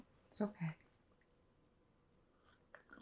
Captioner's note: drinking